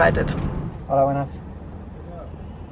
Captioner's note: in Spanish